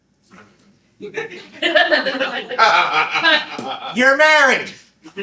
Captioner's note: laughter